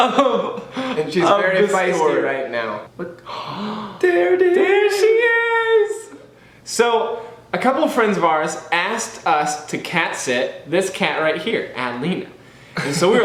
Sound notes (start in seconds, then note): 0.0 laughs; 3.2 both gasp